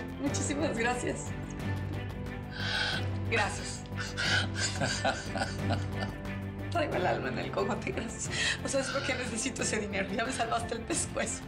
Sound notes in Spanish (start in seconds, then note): 4.5 Risas